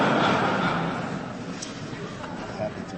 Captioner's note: laughter